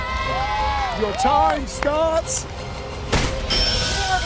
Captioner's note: cheering; bell rings